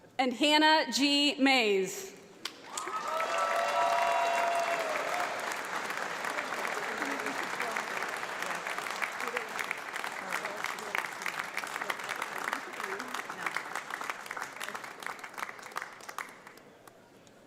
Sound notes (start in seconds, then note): 2.6 audience cheers; 2.6 audience applauds